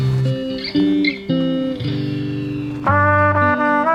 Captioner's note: soft upbeat music; bird chirping; trumpet playing